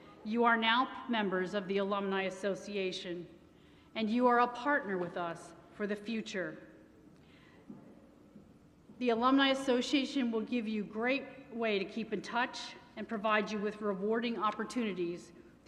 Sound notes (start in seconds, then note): none